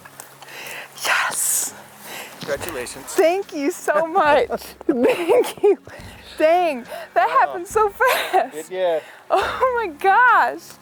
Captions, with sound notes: Yes. - Congratulations. (laughs) - Thank you so much. Thank you. Dang. That happened so fast. - It did. - Oh my gosh.